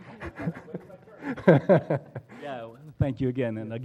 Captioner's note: laugh